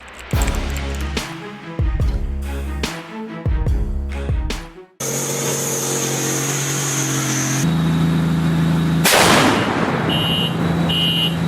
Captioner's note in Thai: ปรบมือ